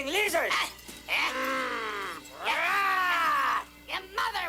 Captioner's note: growling, Yapping